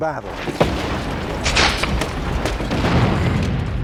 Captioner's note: guns firing